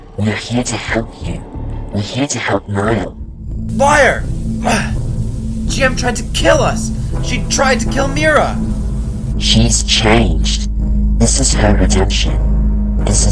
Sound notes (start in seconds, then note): 4.8 grunt